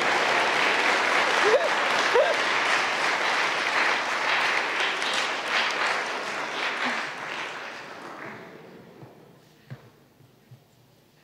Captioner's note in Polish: oklaski